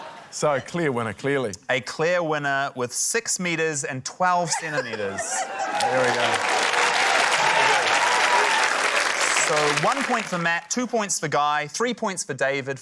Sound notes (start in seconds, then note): 0.0 laughter; 5.4 cheering, applause